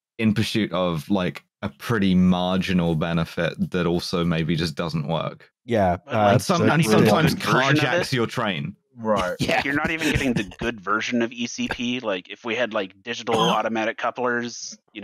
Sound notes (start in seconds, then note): 9.1 laughs